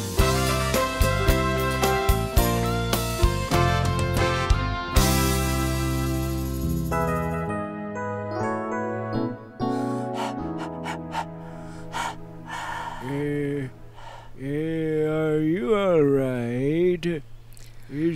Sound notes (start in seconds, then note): 9.6 panting